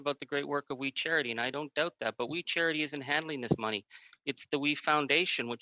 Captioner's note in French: voix de l'interprète